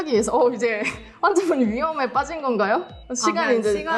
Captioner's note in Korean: 두근 두근